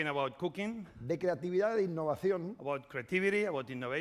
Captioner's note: speaking spanish